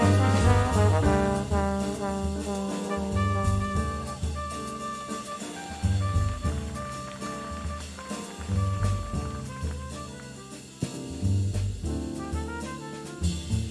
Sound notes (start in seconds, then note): 3.5 audience applauds; 3.5 trumpet solo; 10.5 audience applauds